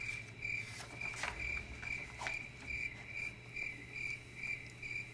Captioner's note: chirping continues